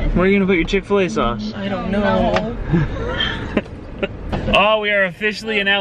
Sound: laughing

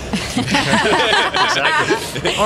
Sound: laughter

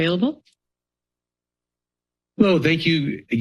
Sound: silence

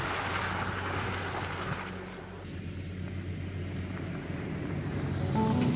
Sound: water splashing; gentle music

